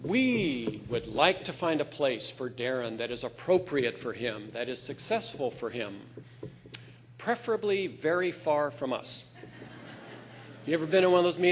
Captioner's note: laughter